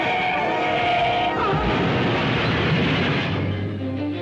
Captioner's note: tires squeal; suspenseful jazz music; crashing sound; Jan cries out; suspenseful music